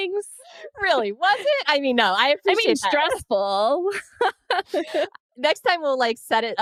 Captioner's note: laughs